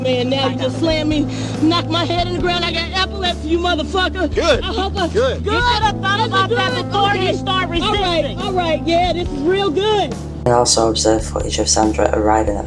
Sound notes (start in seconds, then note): 6.4 arguing